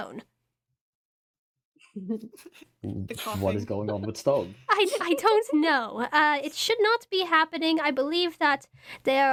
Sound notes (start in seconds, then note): 1.8 giggling